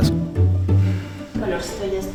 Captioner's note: sights